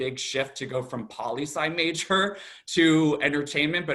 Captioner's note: chuckles